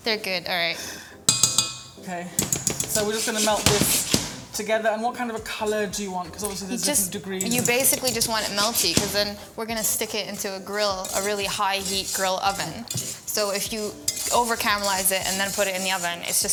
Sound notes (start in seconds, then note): 1.2 spoon dinging